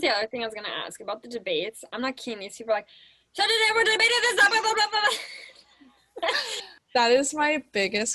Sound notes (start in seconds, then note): 3.4 making fast talking noise